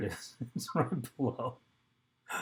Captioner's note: laughs